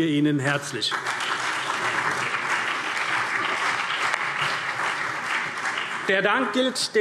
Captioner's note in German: Allgemeiner Beifall